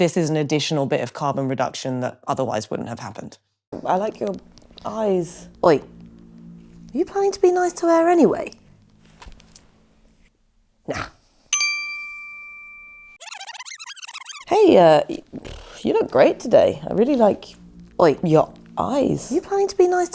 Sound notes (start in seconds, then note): 12.6 rewind noise